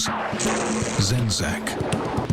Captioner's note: thunder